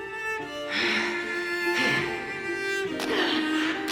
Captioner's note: exhausted panting; woman grunting